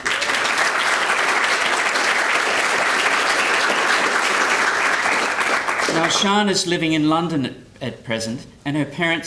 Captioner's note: applause